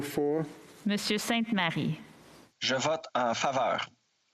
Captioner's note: speaking French